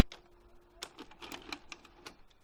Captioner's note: VHS tape eject sound